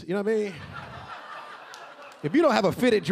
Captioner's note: audience laughing